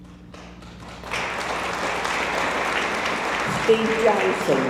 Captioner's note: audience applauds